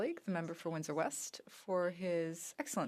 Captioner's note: speaking French